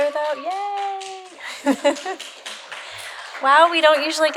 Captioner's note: applause